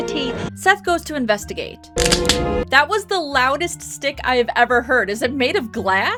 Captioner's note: stick crunching